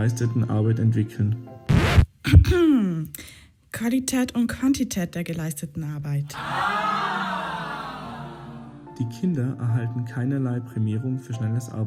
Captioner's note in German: HustHust